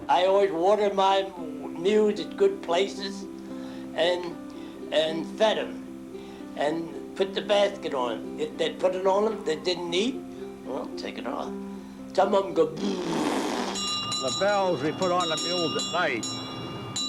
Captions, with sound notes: - I always watered my mules at good places and fed 'em. And put the basket on. They'd put it on 'em. If they didn't eat, well, take it off. Some of 'em go (blows raspberry). (bells ringing) - The bells, we put on the mules at night